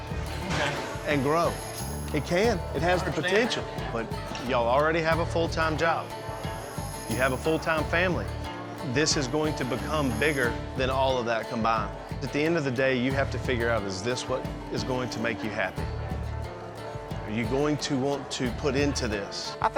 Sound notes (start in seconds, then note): none